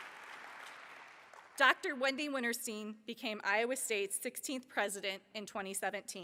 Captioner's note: applause